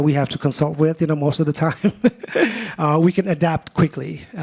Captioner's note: laughs